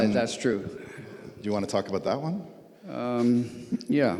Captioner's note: laughs